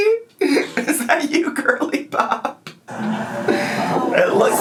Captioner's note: laughs